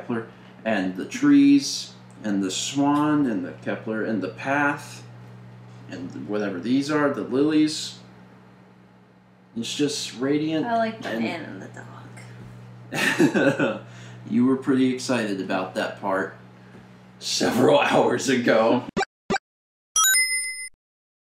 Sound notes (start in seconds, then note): 12.9 laughter; 20.0 Mario fireballs, Sonic ring